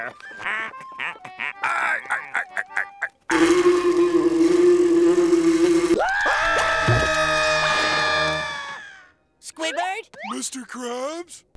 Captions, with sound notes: [laughing] [buzzing] [screaming] Squidward? Mr. Krabs?